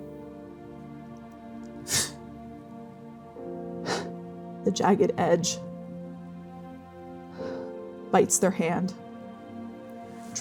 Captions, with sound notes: [breathing, bracing] [exhaling] The jagged edge [shakily breathing out] bites their hand,